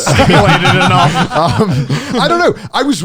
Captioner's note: all laughing